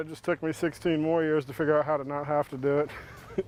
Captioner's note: laughs